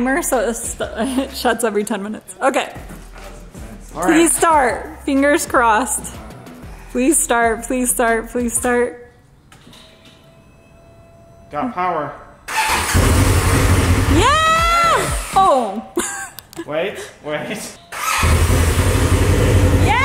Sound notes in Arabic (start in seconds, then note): 12.4 بدء تشغيل المحرك; 15.2 المحرك يموت; 17.9 يبدأ المحرك